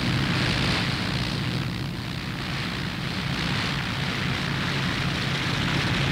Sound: airplane propellers running

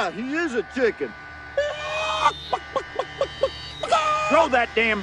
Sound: Joe clucks

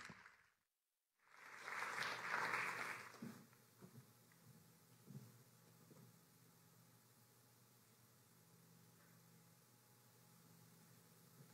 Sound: applause

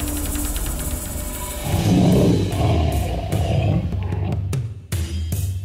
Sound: growling

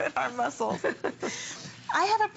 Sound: laughter

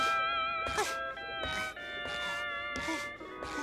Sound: panting

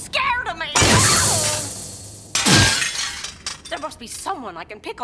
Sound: the Witch yells

